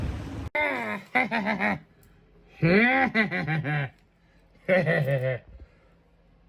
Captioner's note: giggles and laughs